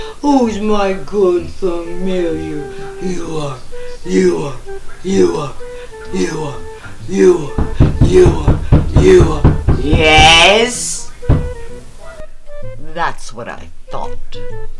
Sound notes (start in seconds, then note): 7.4 mysterious knocking sound; 11.2 knocking stops